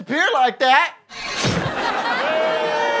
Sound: guillotine chop; audience boos

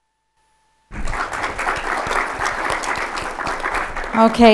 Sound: audience applauding

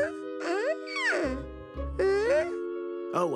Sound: squeals

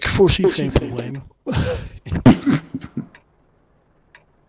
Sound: laughing sarcastically

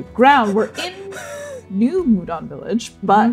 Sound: laughing

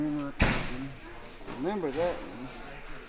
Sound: thudding

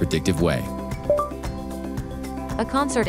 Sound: notification

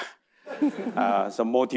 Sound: audience laughing

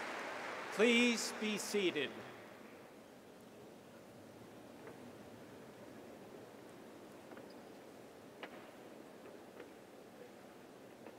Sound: applause

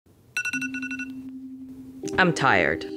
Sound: alarm ringing

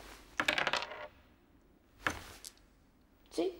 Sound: dice clattering

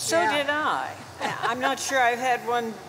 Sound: laughs

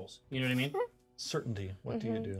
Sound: speaker chuckles

